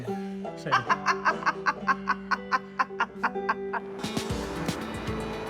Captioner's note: laughs